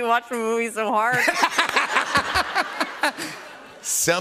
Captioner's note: laughter